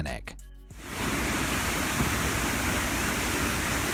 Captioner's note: water roaring